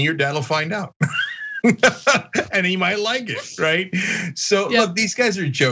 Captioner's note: laugh